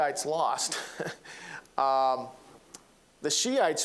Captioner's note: chuckling